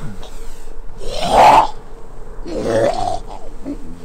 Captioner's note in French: cri de zombie